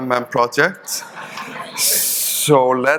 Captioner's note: audience chuckling